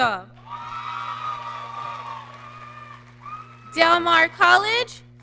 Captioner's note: audience cheering